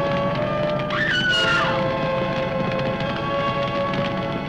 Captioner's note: loud screaming